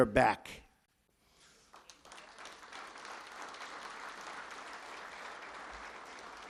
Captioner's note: applause